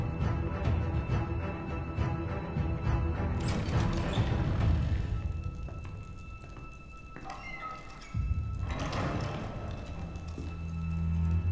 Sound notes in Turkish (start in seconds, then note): 3.3 Kapı Sesi